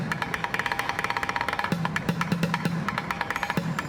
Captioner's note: none